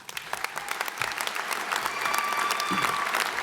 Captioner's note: applause